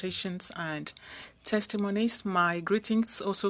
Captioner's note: speaking french